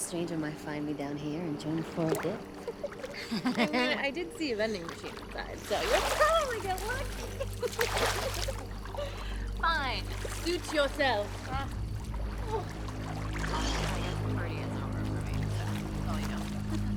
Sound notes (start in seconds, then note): 2.5 laughs; 8.7 laughs; 11.5 tense music